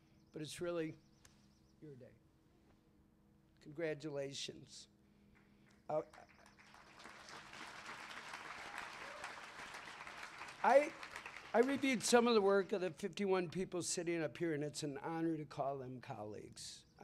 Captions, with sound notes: but it's really your day. Congratulations. [CLAPPING] I reviewed some of the work of the 51 people sitting up here, and it's an honor to call them colleagues.